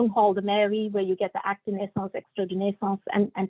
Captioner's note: non-english speech